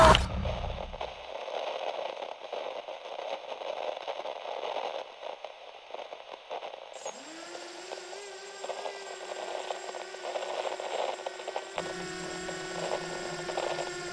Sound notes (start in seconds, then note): 0.1 tv static buzzes; 6.9 drone whirrs